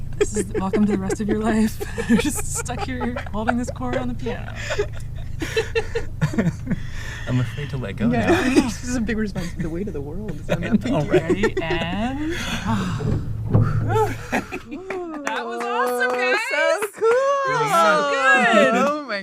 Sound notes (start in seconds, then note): 0.0 laughs; 7.7 laughs; 14.8 applause; 15.1 sigh